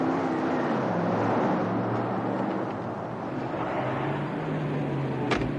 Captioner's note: horns honking